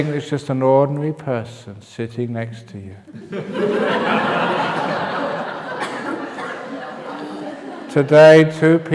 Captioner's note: laughter